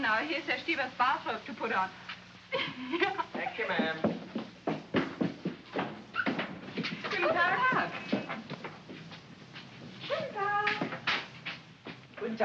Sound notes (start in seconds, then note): 2.5 Frederica giggles; 4.8 scurrying footsteps; 6.1 door opens; 7.1 greets neighbors in German